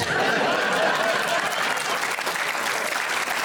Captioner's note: audience laughs; audience clapping